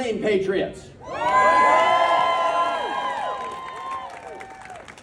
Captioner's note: cheers